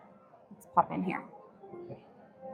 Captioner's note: crowd chattering